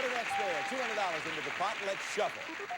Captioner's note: audience applauding